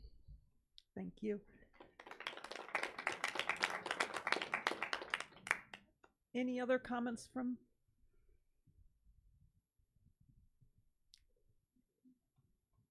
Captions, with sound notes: - Thank you. (audience applauds) Any other comments from?